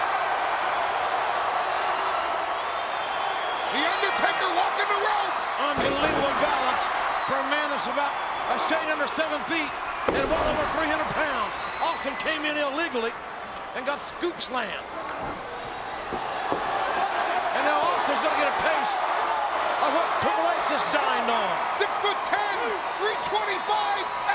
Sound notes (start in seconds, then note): 0.5 applause; 16.6 applause